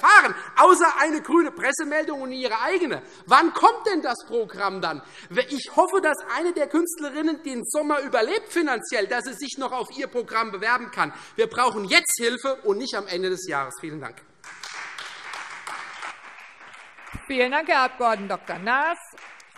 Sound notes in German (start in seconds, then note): 14.4 Beifall Freie Demokraten